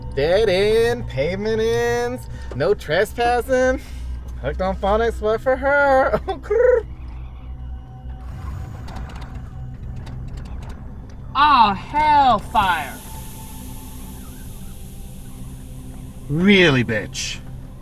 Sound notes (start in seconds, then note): 8.4 car engine sputtering; 12.9 steam hissing